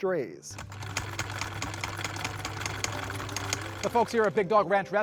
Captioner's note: sewing machine whirring